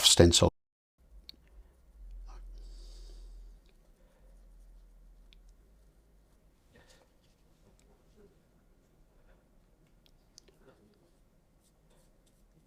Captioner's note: silence